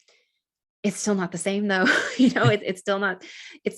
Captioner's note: chuckles